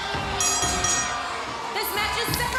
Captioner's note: cheers & applause; bell ringing